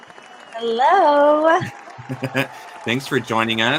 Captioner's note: crowd cheers